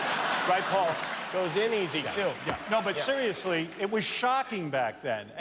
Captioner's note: laughter